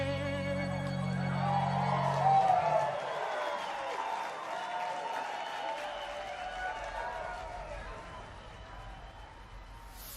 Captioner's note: cheers, whistles, & applause